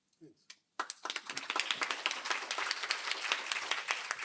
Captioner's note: applause